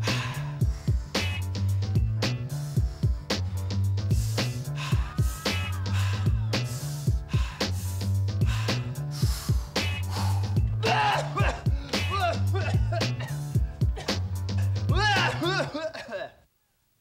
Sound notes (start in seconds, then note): 10.8 coughing